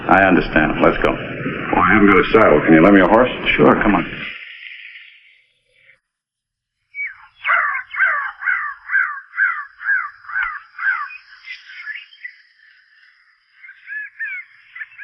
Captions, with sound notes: - I understand, let's go. - Oh, I haven't got a saddle. Can you lend me a horse? - Sure, come on. (birds chirping) (bird squawking)